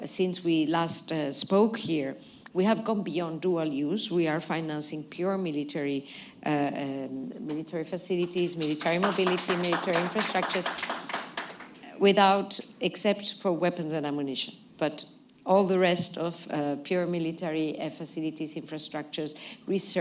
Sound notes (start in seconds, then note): 11.5 applause